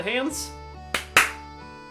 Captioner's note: clap clap